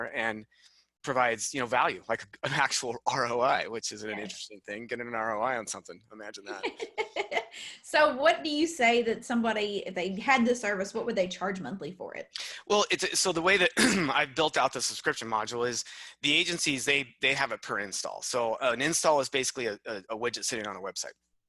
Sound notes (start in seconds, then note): 6.4 laughs